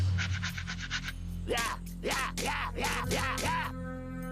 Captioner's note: growling